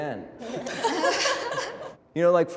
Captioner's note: group laughing